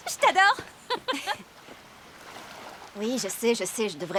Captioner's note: laughing